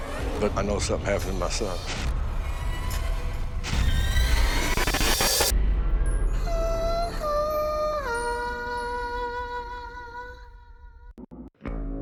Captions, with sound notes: but I know something happened to my son. [suspenseful music playing] [spooky vocalizing]